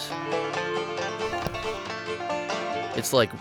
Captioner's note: shell thuds